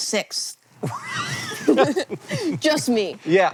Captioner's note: BOTH laugh